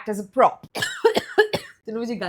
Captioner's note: coughing